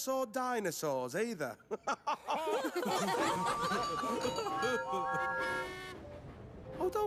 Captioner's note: engines Laugh